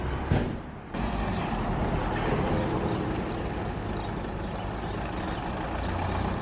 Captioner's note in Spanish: sonido ambiente del bus 'Pucón - Huife'